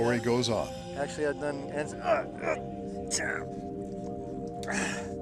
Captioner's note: yells in pain